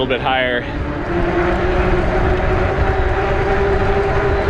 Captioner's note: wheels whirring